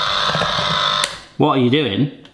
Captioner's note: ice cream maker whirring; ice cream maker switch clicks